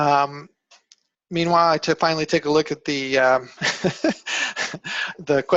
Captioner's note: laughing